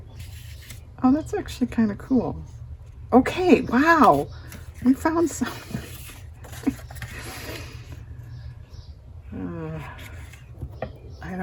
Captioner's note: laughs